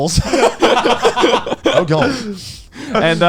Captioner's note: laughing